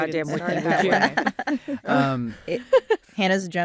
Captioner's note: laughter